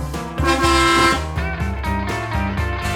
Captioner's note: horn honks